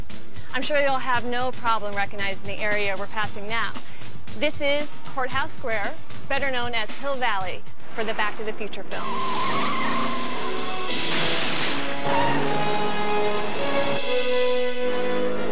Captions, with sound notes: I'm sure you'll have no problem recognizing the area we're passing now. This is Courthouse Square, better known as Hill Valley, for the "Back of the Future" films. (tires screeching) (lightning striking) (triumphant music)